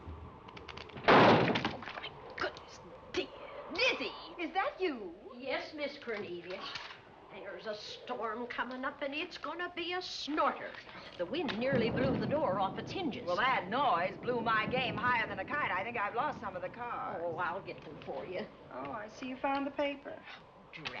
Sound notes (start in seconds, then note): 0.8 banging